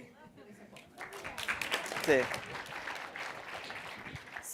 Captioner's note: applause